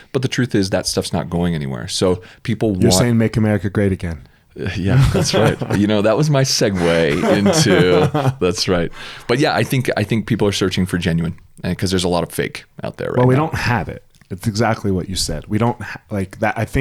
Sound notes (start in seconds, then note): 6.6 laughs; 6.7 both chuckle